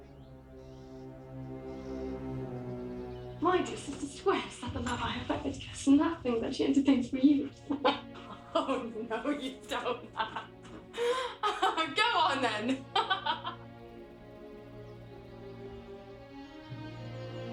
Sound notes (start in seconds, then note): 0.2 soft dramatic music; 10.6 laughs; 12.7 laughs; 13.3 soft music